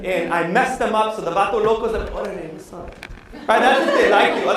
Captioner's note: non-english speech